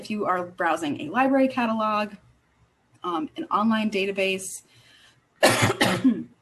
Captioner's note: coughing